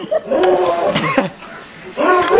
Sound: laugh; spit

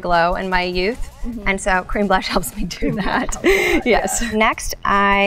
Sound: laughs

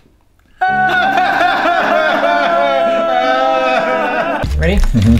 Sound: sobbing

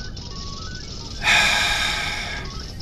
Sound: sights

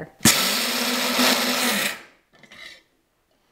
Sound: whirring

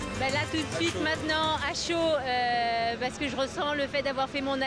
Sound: speaking foreign language

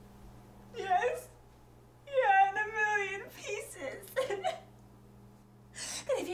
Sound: said through tears...still a sobby mess

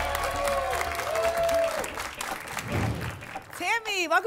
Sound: applause and cheering

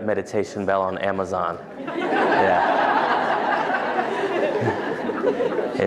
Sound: laughter

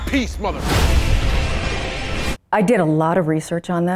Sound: explosion

